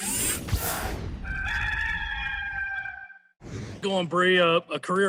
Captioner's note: rooster crowing